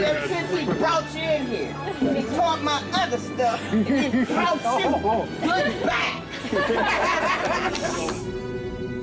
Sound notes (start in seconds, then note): 6.2 laughter